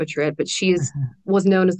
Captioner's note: laughs